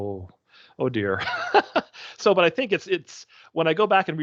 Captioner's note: laughing